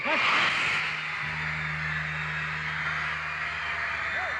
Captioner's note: audience screaming